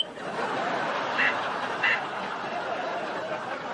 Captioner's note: laugh track; weird robotic beeps